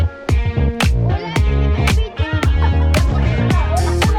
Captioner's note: hehehe